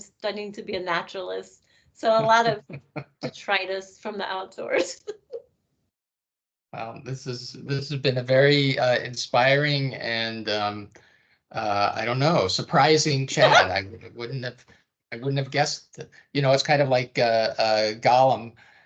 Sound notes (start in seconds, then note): 13.4 laughing